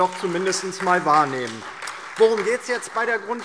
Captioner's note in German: Beifall DIE LINKE, SPD und Freie Demokraten